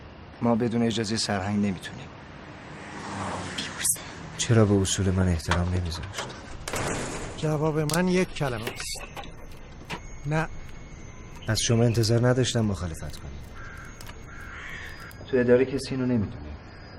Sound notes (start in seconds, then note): 6.1 door slamming